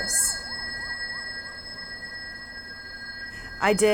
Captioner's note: street noise and police sirens